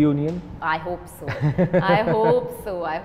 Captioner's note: laughs